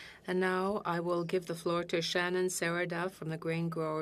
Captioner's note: speaking French